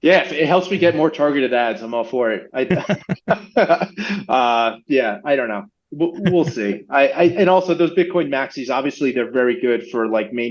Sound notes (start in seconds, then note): 2.4 laughing